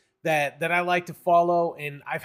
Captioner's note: none